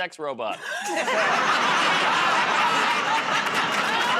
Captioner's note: laughter